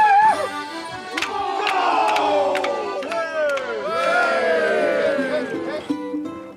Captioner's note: cheering